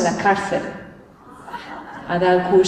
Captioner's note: laughter